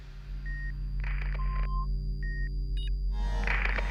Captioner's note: beeping